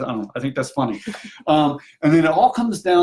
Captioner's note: laughs